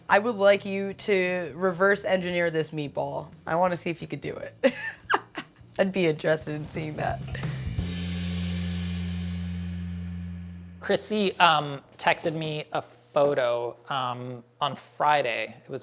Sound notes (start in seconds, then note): 4.6 laughs; 6.0 instrumental music